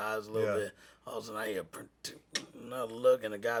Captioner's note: beatboxes